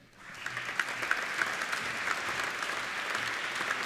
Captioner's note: applauding